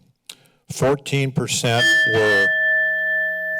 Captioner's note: bell rings